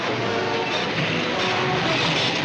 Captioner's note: screeching